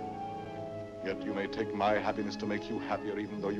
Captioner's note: none